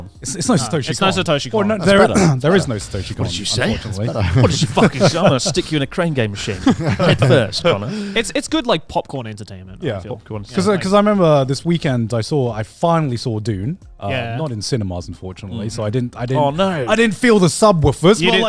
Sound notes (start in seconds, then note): 5.0 laughs